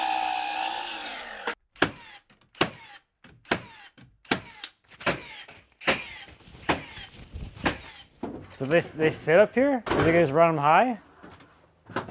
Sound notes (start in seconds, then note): 1.8 nail gun thudding